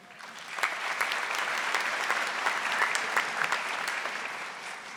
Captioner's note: audience applauding